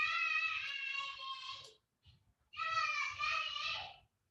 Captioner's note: baby screaming